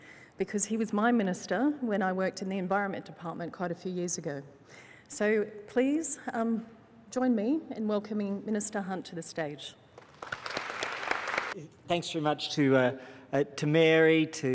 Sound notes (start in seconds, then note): 9.9 applause